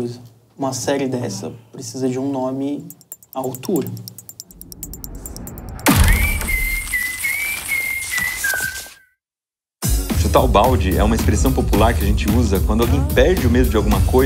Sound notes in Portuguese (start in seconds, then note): 5.8 assobios; 5.8 barulho de chute